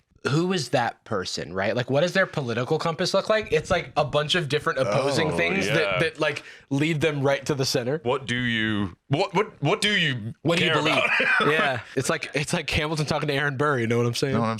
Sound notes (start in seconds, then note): 10.6 laughs